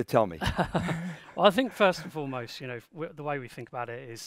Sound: chuckles

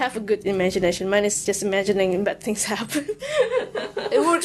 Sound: reverse wheeze laugh

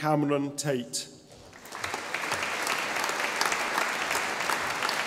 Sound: audience applauding

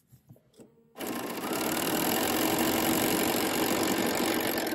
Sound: sewing loudly

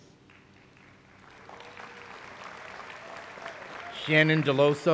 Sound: applause

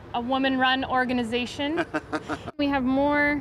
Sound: laughter

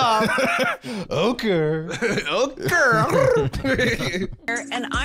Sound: trilling

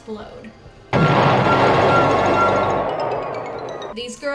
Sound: explosion

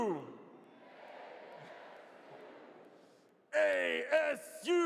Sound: audience responds

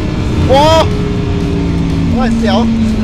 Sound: engine rumbling continues

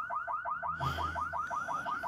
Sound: sighs

